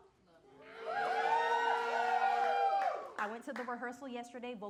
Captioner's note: audience cheering